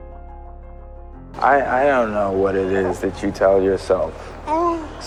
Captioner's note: voiceover